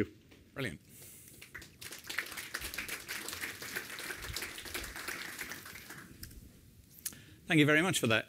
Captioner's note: applause